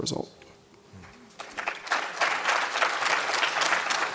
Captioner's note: applause